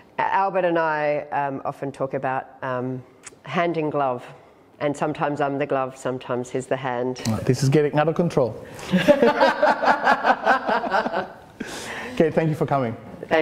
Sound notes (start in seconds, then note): 8.8 laughter